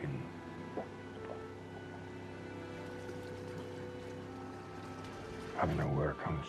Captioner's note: engine rumbling; pensive music